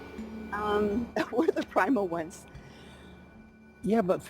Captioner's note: laughing